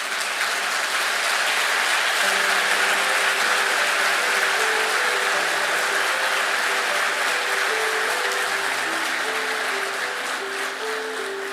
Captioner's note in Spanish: aplausos